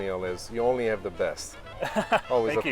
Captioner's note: laughs